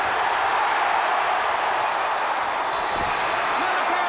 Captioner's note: crowd cheers